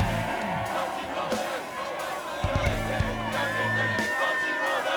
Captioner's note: people chanting